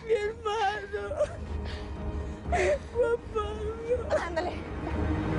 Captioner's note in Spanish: Llorando